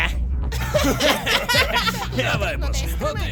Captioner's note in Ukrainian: Сміються